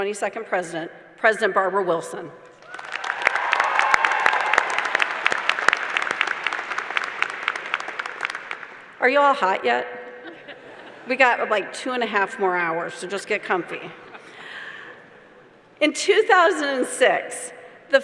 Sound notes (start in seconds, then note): 10.9 applause